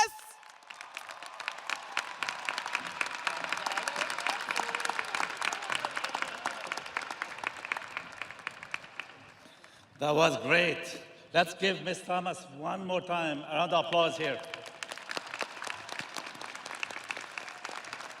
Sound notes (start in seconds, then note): 3.8 audience applauding